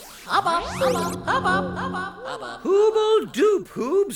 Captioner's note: Hubba Hubba echoing